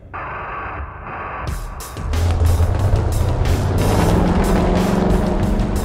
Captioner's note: rock music; engine rumbling